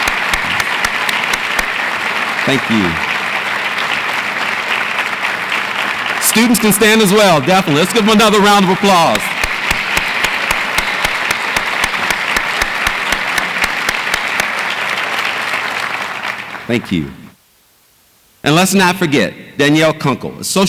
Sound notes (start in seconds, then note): 9.5 audience applauds